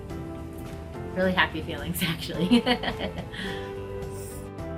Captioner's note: laughs gently; upbeat music